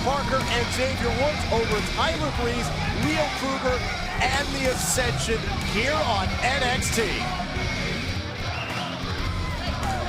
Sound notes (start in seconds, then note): 5.4 crowd cheering